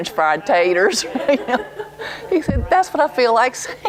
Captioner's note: laughter